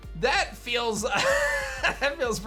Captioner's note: chuckles